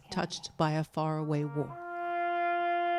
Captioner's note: speaking French